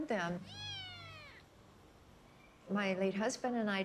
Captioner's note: kitten mews